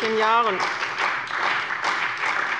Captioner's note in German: Beifall bei dem BÜNDNIS 90/DIE GRÜNEN und der CDU